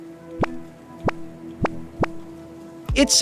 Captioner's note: popping